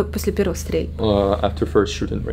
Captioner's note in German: englisch